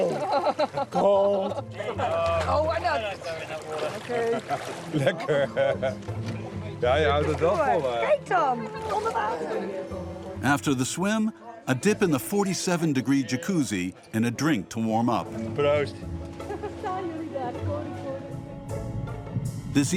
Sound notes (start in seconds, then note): 3.9 foreign language spoken audio